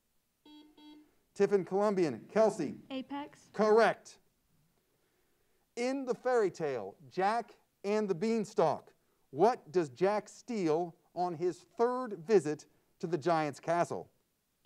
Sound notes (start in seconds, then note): 0.4 buzzer sounds